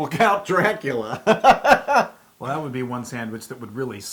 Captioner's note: laugh